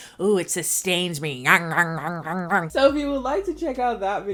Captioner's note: making gnawing sounds